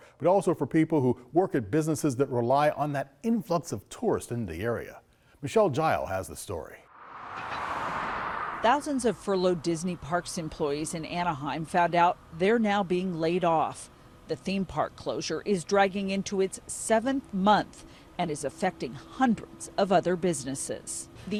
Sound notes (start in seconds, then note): 6.8 wind whooshing